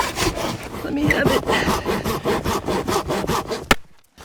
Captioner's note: saw scratching; ax thudding